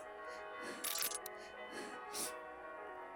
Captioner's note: Hana breathing frantically